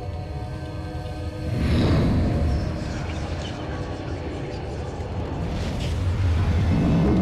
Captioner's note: flames roar